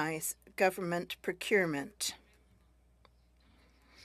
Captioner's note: speaking French